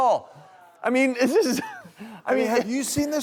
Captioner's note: laughs